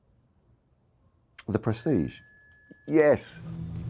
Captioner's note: bell chimes